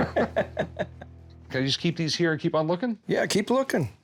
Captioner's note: laughs